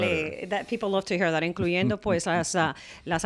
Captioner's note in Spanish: Hablando ingl\s